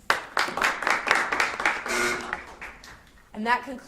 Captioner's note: audience applauds